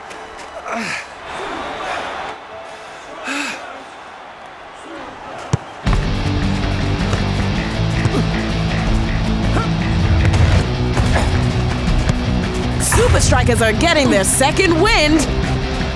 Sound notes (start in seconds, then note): 0.0 cheering; 6.8 upbeat music